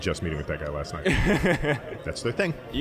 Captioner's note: laughing